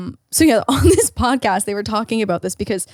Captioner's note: chuckles